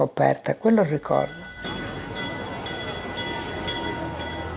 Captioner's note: bell tolling